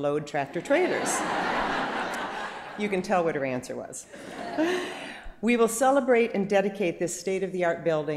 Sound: laughter

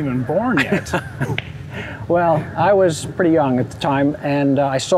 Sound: chuckles

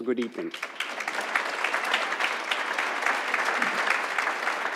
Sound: audience applauds

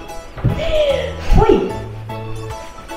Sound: laughs

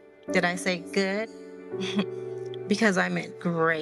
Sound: Crystal snickers

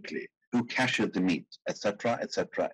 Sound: speaking in foreign language

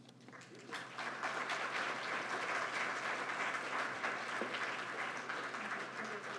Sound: applause

